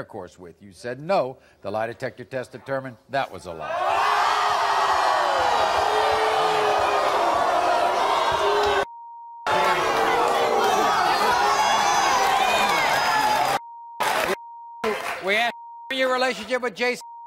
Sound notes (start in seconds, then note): 3.6 audience boos